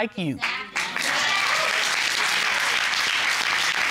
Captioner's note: audience cheering, applauding